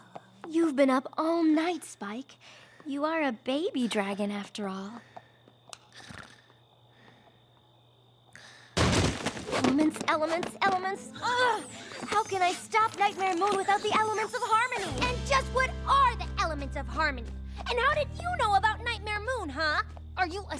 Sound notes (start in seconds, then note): 8.8 crash!